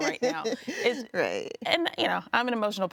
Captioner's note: chuckles